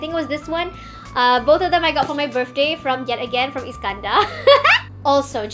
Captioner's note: laughs